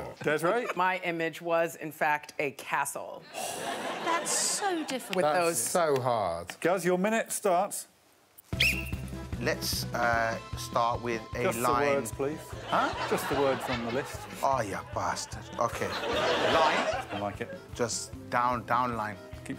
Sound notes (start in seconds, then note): 8.5 Alex blows whistle